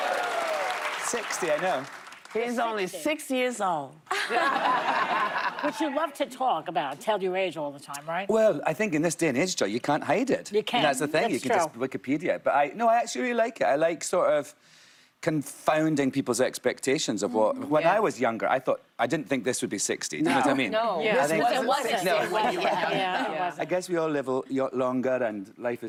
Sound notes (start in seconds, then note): 2.0 applause; 6.8 laughter